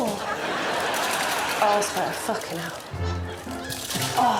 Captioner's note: groaning sexually